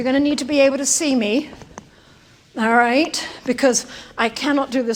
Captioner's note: none